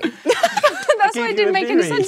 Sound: Jessie laughs

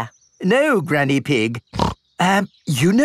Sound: snorts

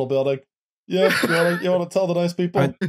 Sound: laughs

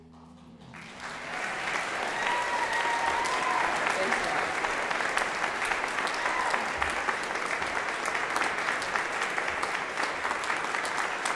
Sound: applause

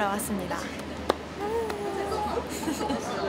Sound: clap clap clap

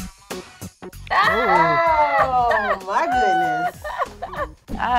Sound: hip-hop music; laughs

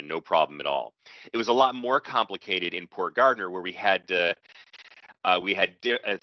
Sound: audio skips forward

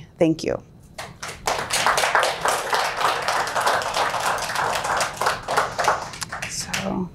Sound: applause

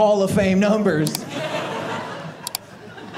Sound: audience laughing

